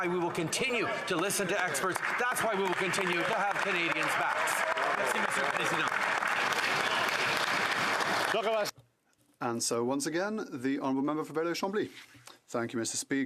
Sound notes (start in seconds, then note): 8.4 some Applause